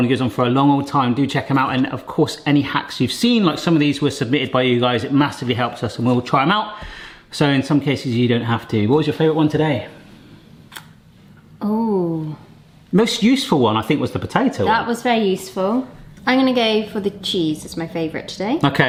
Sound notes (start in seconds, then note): none